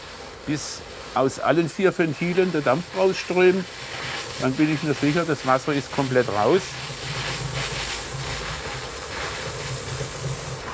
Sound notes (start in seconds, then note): 7.4 hissing